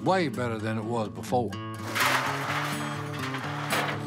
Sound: clanking

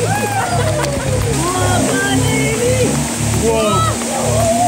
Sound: cheering

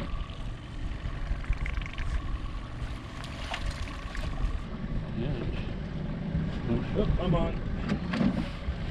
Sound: boat engine idling; thunk; boat engine idling

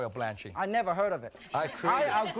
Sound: laughing

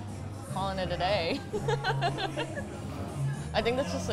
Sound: laughs

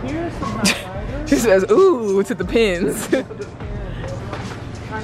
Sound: laughing

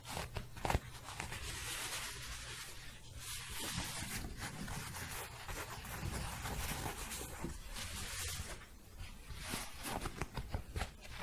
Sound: scratching and shuffling

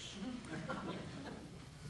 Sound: laughter

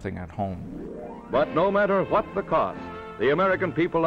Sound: voiceover

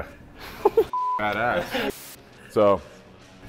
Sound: laughing

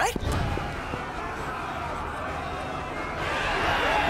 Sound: crowd cheering

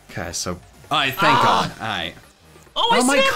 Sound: groans

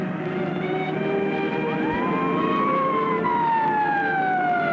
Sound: siren

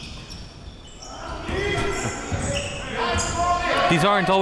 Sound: players yelling

